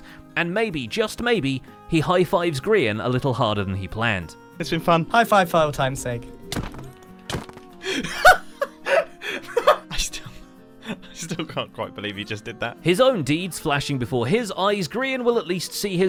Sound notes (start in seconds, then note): 7.2 smack; 7.8 hysterical laughter